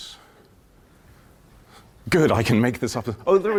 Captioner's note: silence